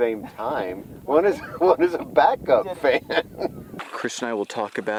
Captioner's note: laughs